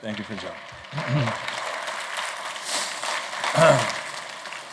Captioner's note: applause